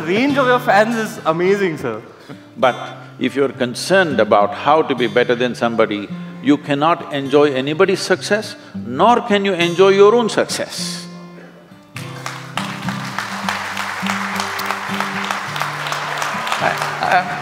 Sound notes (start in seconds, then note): 11.9 applause